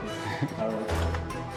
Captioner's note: laughs